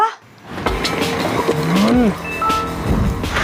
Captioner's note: door opens; groans; door closes